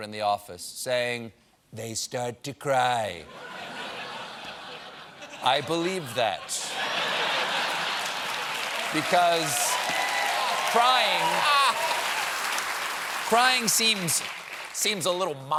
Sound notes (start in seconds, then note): 3.2 laughter; 6.8 cheers and applause